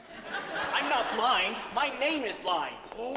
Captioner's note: audience laughs